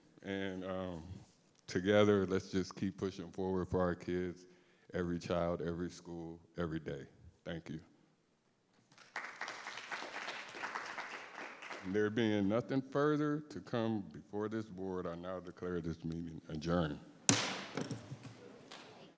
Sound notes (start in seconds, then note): 8.9 everyone applauding; 17.3 gavel banging